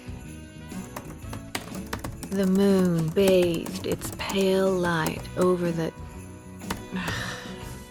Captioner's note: typing resumes; typing